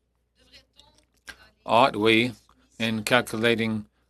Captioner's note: speaking French